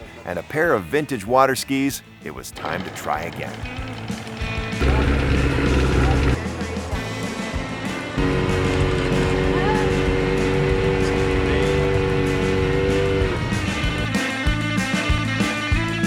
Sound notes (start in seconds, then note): 4.4 upbeat music; 4.8 boat engine roaring